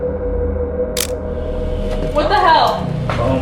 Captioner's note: camera clicking